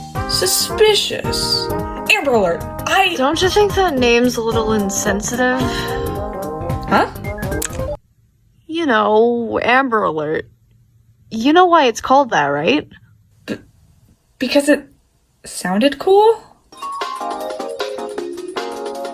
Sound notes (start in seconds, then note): 7.6 click; 16.7 upbeat music plays